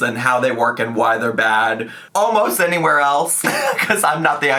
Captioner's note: laughs